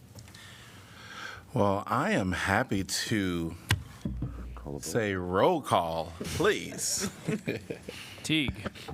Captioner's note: laughter